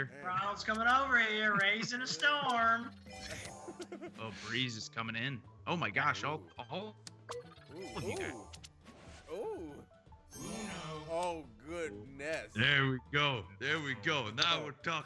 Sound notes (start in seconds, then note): 3.2 laugh